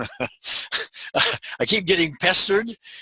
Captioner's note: laughs